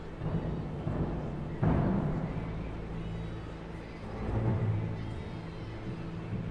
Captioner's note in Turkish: Müzik - Gerilim; Rüzgâr sesi